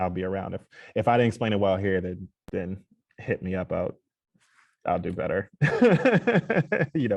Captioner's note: laughs